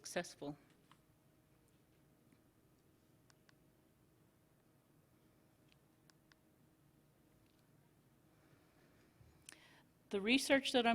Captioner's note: silence